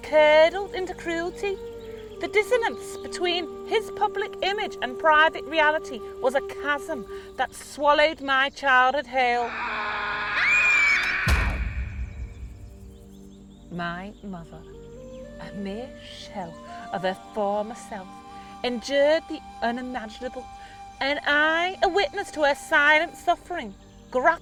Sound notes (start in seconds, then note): 9.2 man shouting; 9.3 girl screaming; 10.5 door slamming